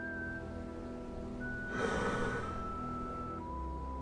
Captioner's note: horse breathing